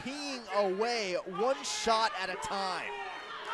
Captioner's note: crowd chatter